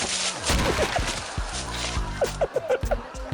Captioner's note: body thumping; man giggling